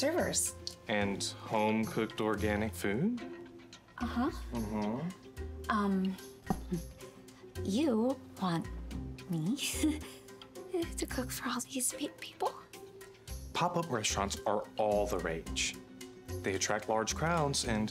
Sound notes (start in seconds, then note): 8.3 chuckling nervously